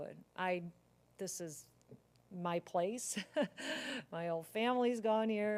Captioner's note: laugh